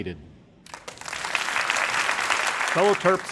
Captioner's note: crowd applauding